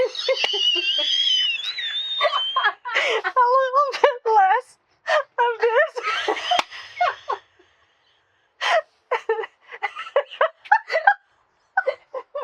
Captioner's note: through tears; just cannot get it together kind of laughing